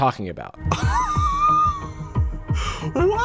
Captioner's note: gasps incredulously